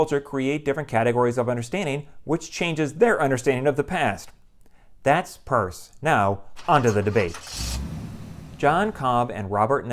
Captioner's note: car starting